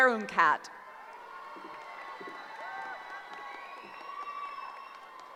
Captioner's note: cheering